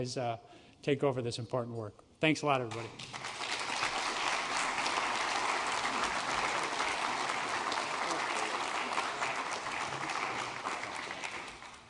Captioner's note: applause